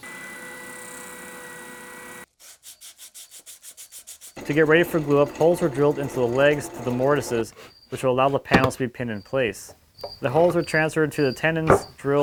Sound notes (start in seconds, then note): 0.3 high pitched drill whirring; 2.3 sandpaper scratching